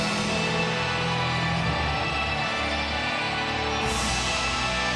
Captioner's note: audience cheers; ominous music continues